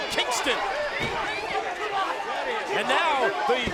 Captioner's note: wrestlers yelling; crowd chattering